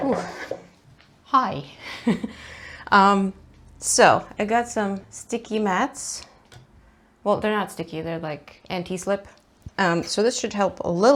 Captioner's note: laughs